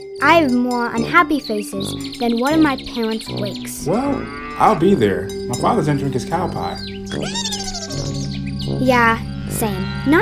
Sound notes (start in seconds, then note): 7.2 fairy snoring